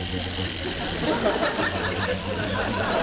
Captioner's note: toothbrush buzzing; viewers laughing